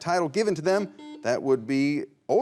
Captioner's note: buzzer rings